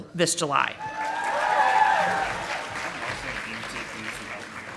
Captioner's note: audience applauding